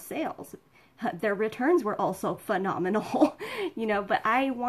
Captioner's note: laughing